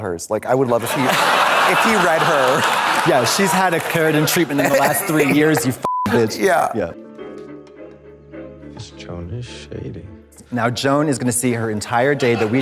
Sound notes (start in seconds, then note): 5.8 beep; 7.6 tense music